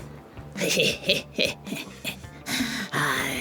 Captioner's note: snickering